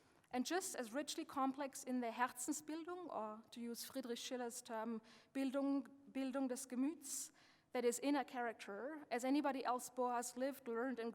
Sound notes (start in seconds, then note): 2.2 speaking German; 6.3 speaking German